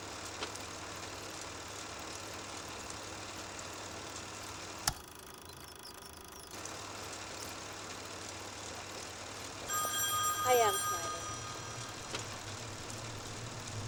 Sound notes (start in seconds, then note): 3.2 film reel ticking; 9.6 phone ringing; 10.1 light dramatic music